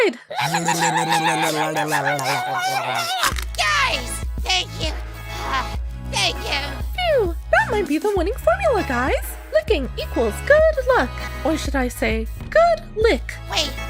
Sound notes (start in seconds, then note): 5.3 sigh